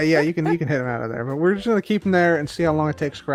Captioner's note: laughs